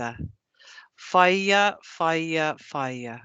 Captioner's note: non-english speech